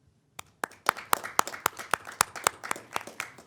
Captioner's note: applauding